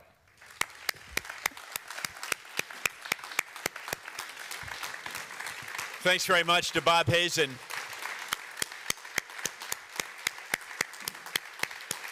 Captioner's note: applause